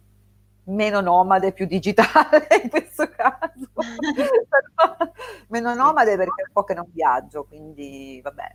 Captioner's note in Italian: risate